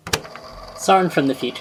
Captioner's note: tape recorder clicks on